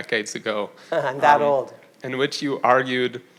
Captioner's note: chuckles